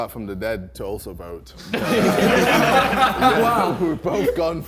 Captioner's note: men laughing